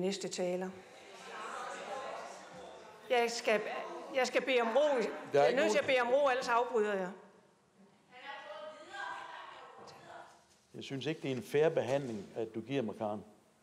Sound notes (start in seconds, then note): 0.8 crowd protests